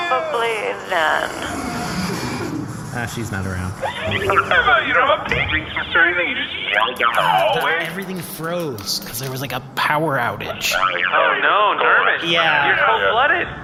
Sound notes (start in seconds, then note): 3.3 shouting; 6.9 laughing